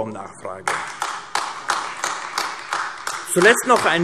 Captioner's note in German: Beifall AfD